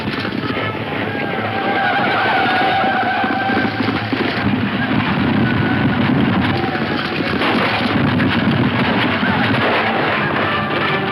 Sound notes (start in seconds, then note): 3.4 gunshots